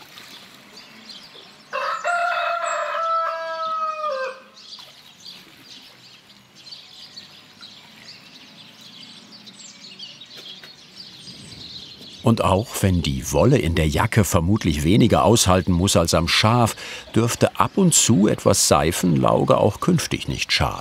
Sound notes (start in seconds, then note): 1.7 A rooster crows; 7.4 birds chirping